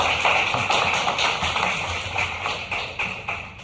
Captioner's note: applause